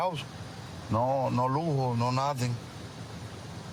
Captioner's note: speaking spanish